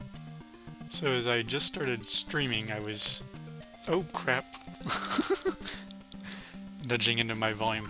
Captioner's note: laughs